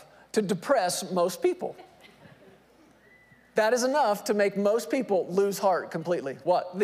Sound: laugh

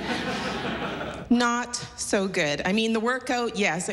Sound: laughter

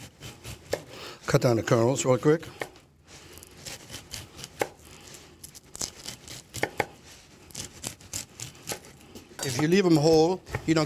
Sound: chopping noises

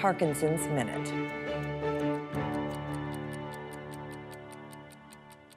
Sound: clock ticking

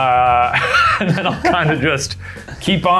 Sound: laughing

